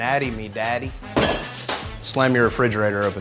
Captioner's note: refrigerator door slams